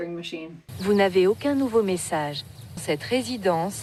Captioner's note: in French, automated message